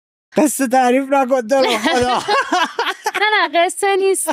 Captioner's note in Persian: خنده